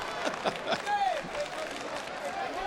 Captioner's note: King chuckles